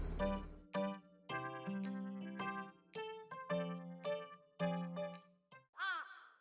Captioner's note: cry